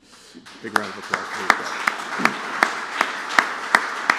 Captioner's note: applause